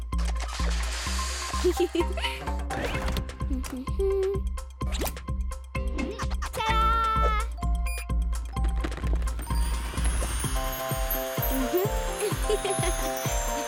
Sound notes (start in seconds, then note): 1.6 giggling; 2.6 humming; 7.8 beeping; 11.4 giggling